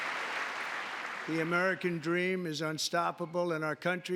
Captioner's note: applause